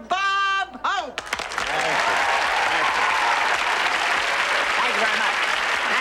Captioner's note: audience cheering and clapping